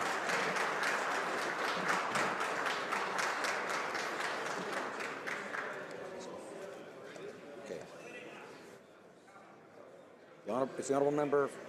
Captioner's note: applause